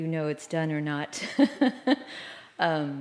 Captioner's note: laughter